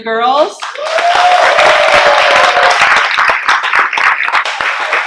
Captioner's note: clapping and cheering